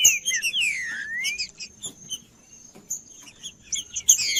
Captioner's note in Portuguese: trinca ferro cantando